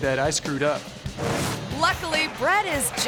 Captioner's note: graphics whooshing